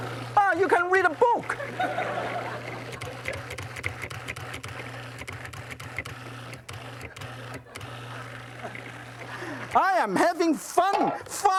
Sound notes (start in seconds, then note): 1.4 audience laughs; 3.6 blender buzzing